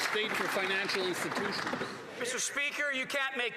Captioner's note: applause